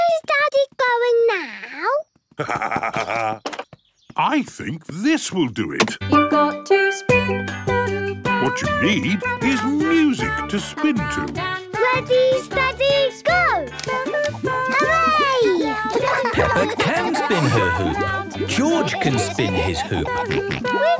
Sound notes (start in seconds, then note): 2.4 laughs; 6.6 radio